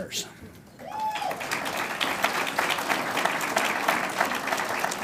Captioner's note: audience applauds